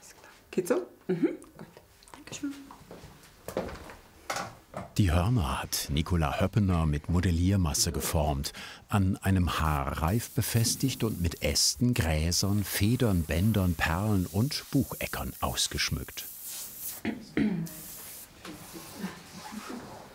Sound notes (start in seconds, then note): 17.0 clears his throat